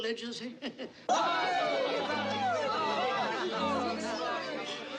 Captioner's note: CHATTERlNG